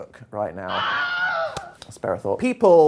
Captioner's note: man screams